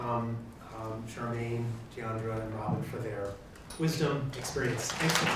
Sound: applause

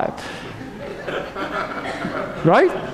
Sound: audience laughs

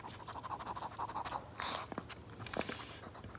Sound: breathing asmr

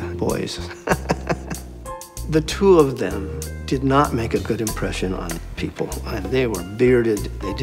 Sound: laughs

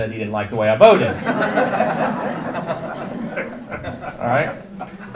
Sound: audience laughter

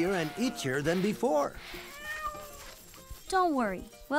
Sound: meow

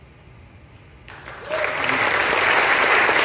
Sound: applause

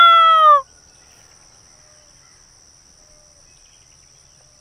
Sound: birds chirping

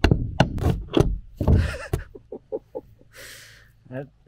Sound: laughs

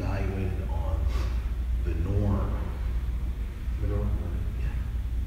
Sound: sniff

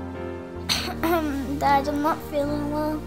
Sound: coughs

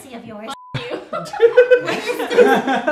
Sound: giggle

